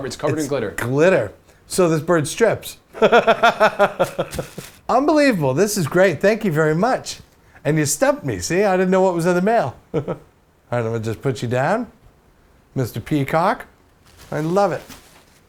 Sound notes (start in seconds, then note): 2.9 laughs